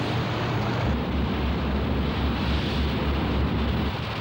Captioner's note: none